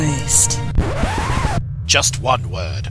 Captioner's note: record Scratch Noise